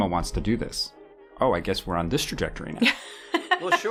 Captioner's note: laughs